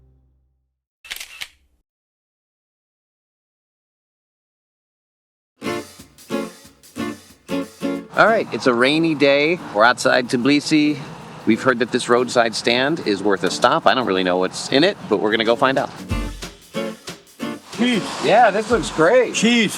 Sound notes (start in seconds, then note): 1.0 camera clicking; 5.6 lively cheerful music; 15.3 lively cheerful music